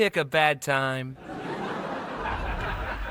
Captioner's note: laughter continues over speakers; canned laughter plays